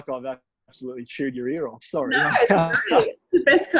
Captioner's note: laughs